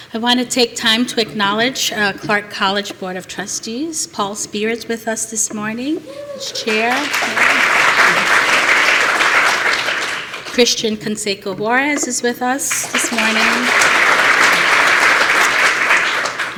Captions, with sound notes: I want to take time to acknowledge Clark College Board of Trustees. Paul Speer is with us this morning. He's chair. [APPLAUSE] Christhian Canseco Juarez is with us this morning. [APPLAUSE]